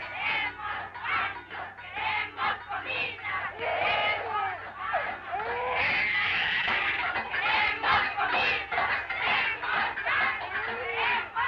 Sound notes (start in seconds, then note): 3.5 baby wailing; 7.9 chanting continues